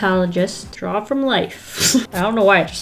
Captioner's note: laughs